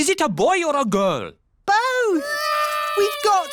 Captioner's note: babies cry